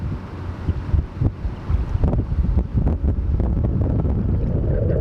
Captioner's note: wind gusts loudly